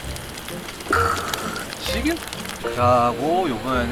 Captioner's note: exclamation